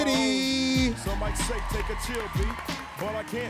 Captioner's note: audience applauding